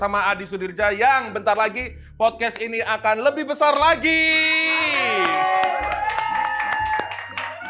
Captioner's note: applause